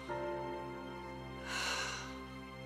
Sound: sighing

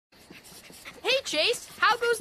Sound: Chase Sniffing

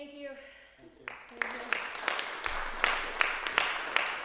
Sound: applause

